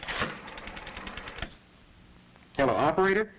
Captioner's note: phone dialing